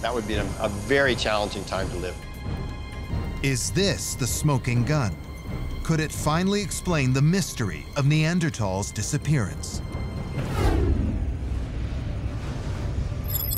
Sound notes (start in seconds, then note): 10.3 deep rumble